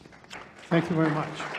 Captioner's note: audience applauding